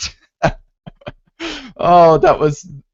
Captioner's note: laughing